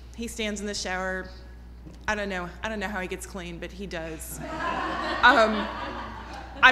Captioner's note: laughter